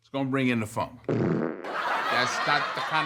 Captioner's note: fart; audience laughs